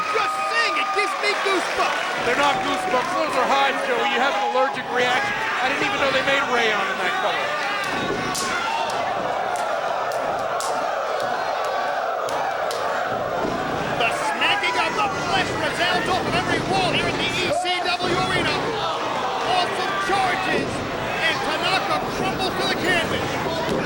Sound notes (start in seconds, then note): 7.8 hands slapping; 8.1 crowd exclaiming